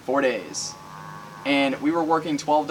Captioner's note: cow mooing